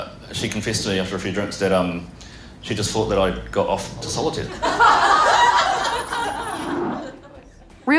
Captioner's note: laughter